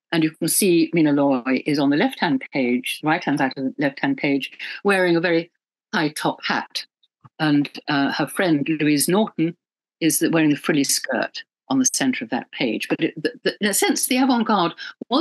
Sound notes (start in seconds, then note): none